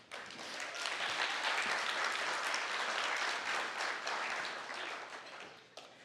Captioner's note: applause